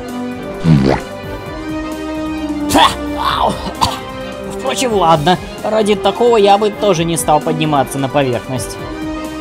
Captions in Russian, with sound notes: (звук поглощения просроченного хот-дога) (звук отвращения) Впрочем, ладно. Ради такого я бы тоже не стал подниматься на поверхность.